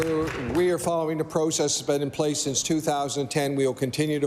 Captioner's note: applause